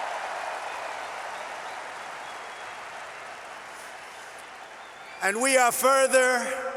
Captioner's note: applause